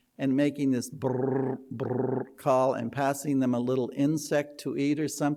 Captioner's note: tongue trill